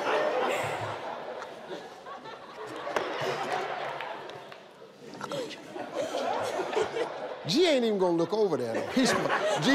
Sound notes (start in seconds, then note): 0.0 audience laughing; 5.2 whispering